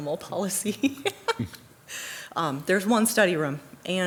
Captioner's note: laughs